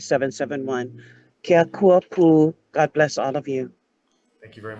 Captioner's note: speaks in foreign language